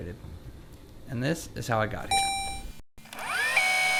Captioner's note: robotic ding; tape rewinding